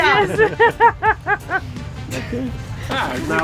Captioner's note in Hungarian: nevetés